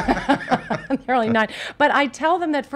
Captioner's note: laughs